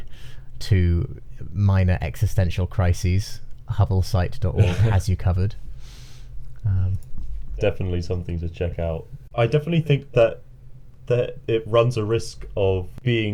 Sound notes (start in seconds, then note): 4.5 chuckling